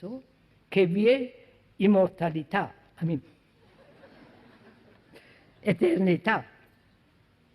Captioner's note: En italiano